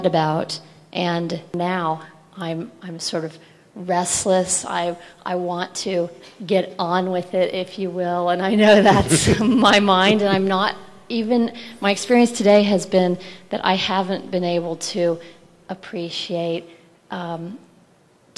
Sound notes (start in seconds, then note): 8.8 both laugh